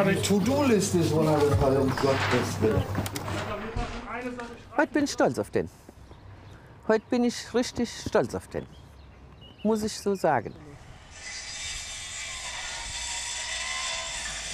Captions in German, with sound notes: Die To-do-Liste ist runtergefallen, um Gottes willen. Heute bin ich stolz auf den. Heute bin ich richtig stolz auf den. Muss ich so sagen. (Sägegeräusch)